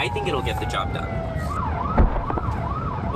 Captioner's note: thump